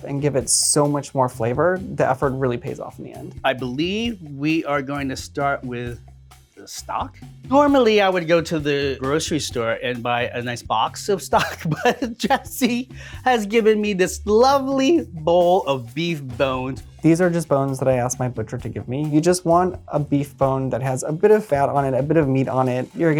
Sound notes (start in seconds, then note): 11.3 laughs